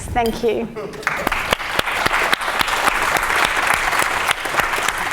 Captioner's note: audience applauds